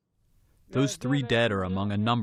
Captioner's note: through translator